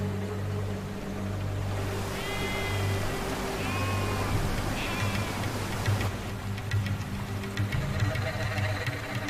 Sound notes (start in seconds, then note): 2.2 goats bleating